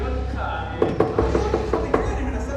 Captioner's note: door Knock